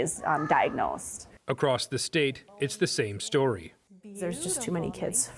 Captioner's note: voice-over